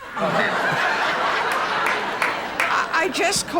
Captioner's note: audience laughs